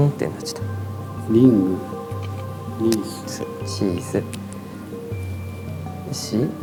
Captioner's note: ring